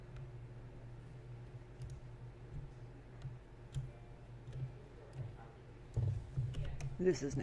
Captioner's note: tappy typey